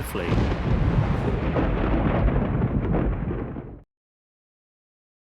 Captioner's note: rumbling